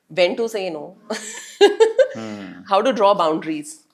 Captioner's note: laugh